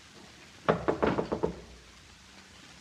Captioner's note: knocking at the door